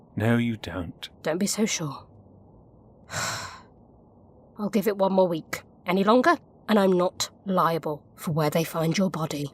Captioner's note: sighs